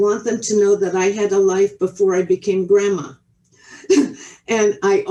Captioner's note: chuckles